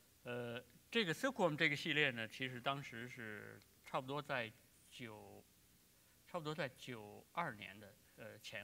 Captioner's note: speaking in Chinese